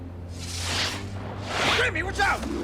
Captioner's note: whooshing